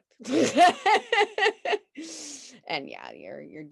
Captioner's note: both laughing